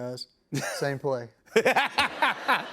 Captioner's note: laughter